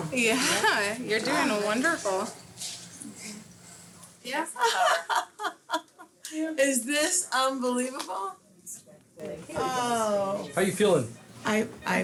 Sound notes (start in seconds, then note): 5.3 laughs